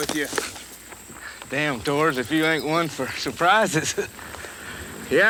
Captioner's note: chuckles